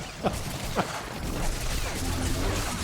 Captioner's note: laughs